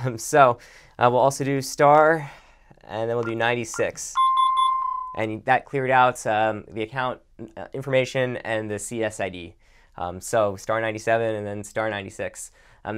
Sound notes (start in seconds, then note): 3.7 beeps